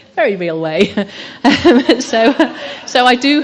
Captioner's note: laughter